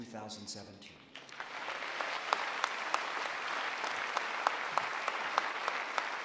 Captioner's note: applause